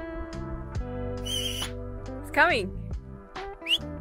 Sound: relaxing music; whistles; relaxing music; whistles

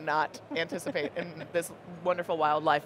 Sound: laughing

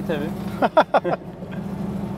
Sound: laughings

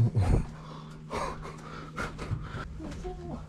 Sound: breathing heavily

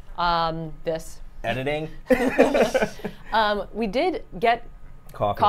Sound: laughs

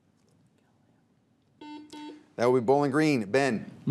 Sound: buzzer beeps

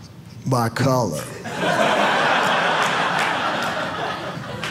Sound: audience laughing

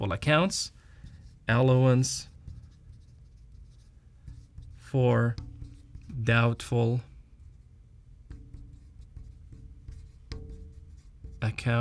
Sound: writing sounds

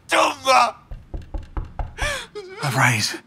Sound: knock at the door

